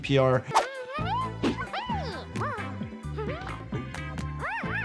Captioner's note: giggles babbles